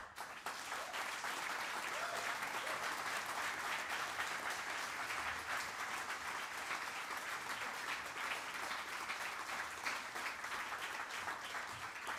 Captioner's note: applause